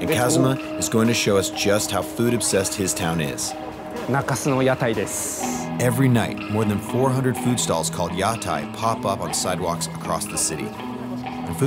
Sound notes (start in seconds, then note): 4.0 speaking in Japanese